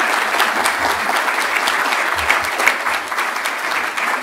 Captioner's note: applause